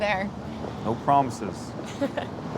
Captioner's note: laughs